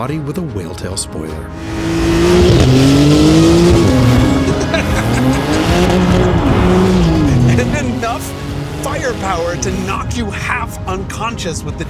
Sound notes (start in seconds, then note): 2.3 engine revving; 3.6 laughs